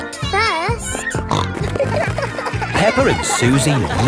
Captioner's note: snorting